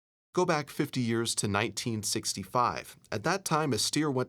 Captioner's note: voiceover